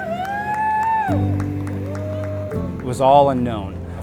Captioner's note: people cheer